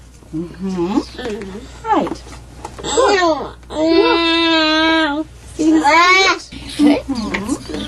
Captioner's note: child fusses